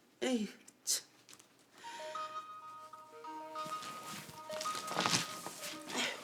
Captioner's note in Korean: 휴대전화벨 소리